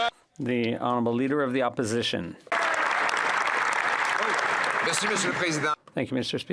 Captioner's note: speaking French